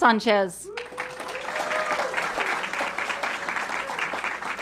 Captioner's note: audience clapping